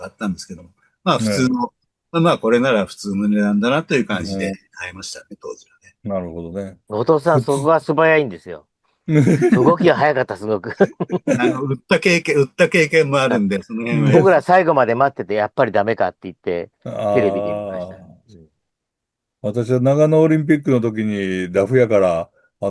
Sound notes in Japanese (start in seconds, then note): 10.6 笑い; 14.7 咳払い